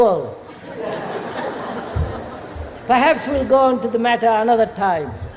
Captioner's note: laughter